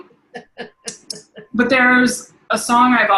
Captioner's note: chuckling